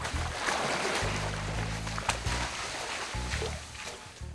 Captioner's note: water splashing